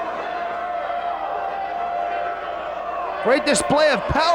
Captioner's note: spectators cheering